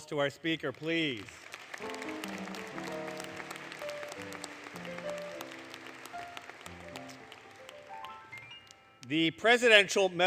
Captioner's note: applause, Music